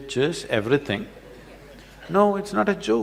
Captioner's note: laughter